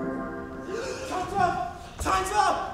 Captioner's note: men gasp